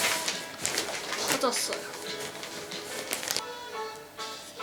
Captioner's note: sighing and fumbling